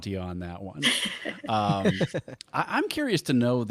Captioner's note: laughing